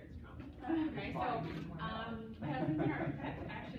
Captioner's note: laughs